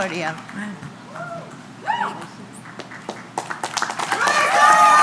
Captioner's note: crowd cheering